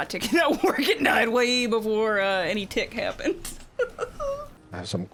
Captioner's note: laughs